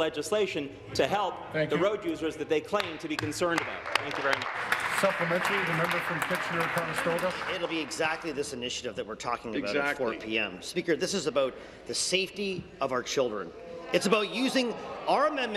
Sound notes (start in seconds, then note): 8.6 applause